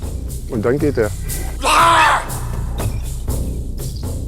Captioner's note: loud scream